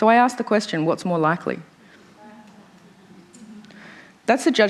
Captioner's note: audience gasping